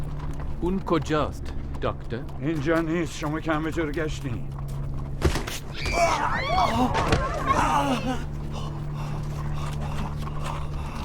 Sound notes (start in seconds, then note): 5.7 thud, groaning, roar of screams